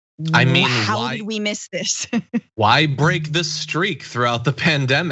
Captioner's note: laugh